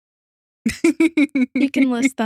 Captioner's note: both Laughing